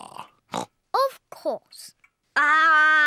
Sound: oinks

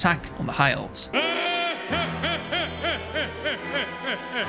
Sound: Homer laughing

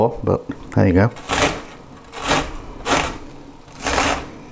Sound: grating sound

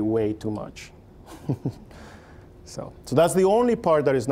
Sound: chuckling

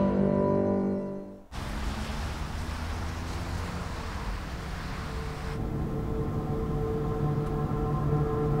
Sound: car sounds; eerie music

